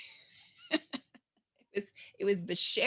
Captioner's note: laughs